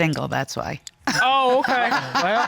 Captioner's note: chuckles